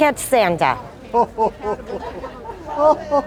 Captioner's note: laughter